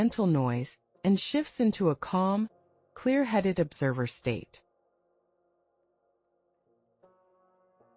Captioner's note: pause